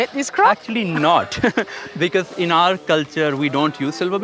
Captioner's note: chuckles